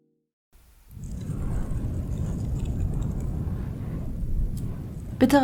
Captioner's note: wind blowing